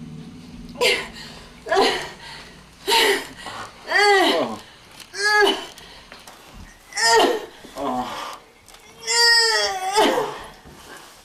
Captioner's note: grunting...Sighs... Groans